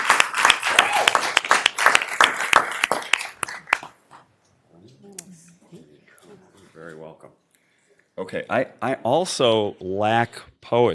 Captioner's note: applause